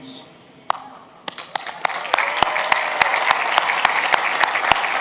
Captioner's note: applauding